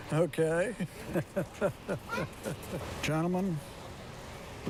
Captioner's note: laughs